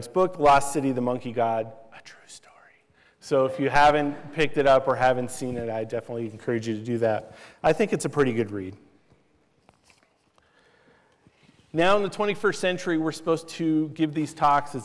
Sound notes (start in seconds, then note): 2.0 whispers